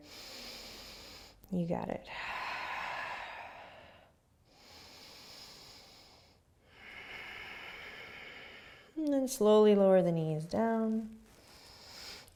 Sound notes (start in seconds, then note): 0.0 inhaling; 2.2 deep breathing